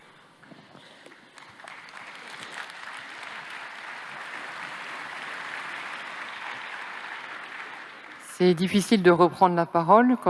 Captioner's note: applause